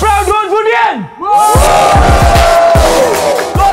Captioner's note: Hooting